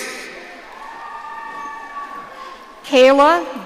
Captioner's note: audience cheering